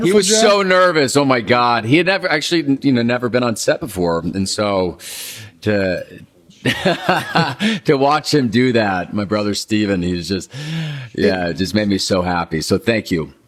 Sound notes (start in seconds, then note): 6.6 Paul laughing